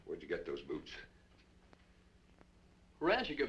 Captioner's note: none